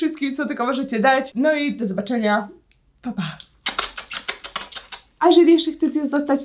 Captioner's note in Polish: cmoknięcia